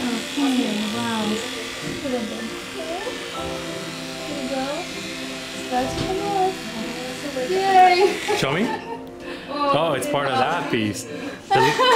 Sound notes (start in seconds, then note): 8.2 laughter